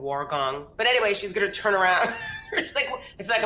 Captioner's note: chuckles